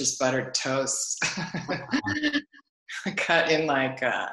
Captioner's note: laughs